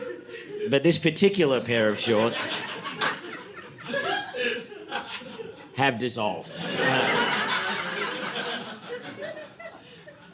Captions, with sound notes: "But this particular pair of shorts (audience laughing) "have dissolved." (audience laughing)